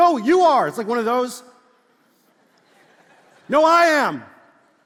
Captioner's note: congregation laughs